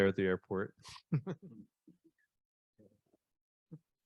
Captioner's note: laughing